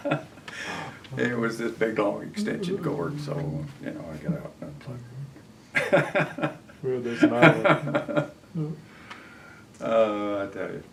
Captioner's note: laughter